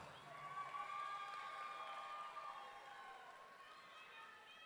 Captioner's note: audience cheering